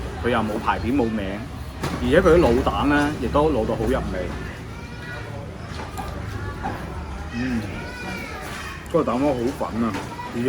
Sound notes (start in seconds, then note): 7.3 nonverbal grunt as interjection